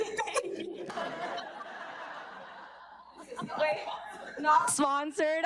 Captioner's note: audience laughing